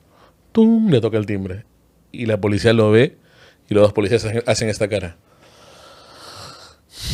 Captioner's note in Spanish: suspiro